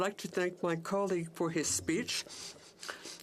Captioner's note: speaking French